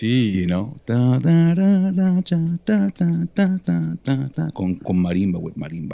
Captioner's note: humming